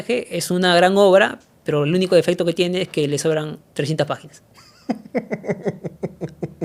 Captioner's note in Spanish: risas